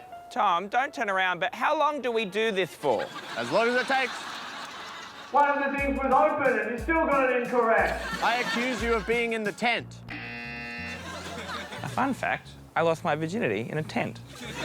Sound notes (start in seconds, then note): 10.1 buzzer